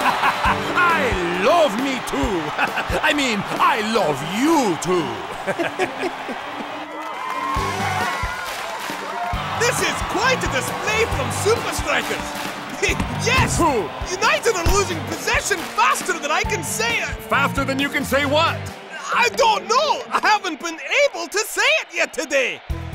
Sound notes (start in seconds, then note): 4.9 laughing; 7.7 cheering